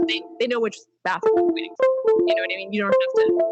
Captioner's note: gentle notification sounds